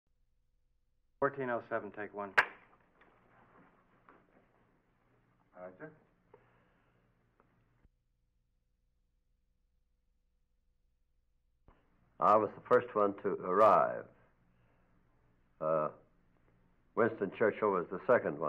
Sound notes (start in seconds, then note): 0.8 silence